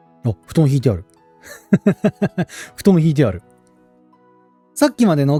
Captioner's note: laughs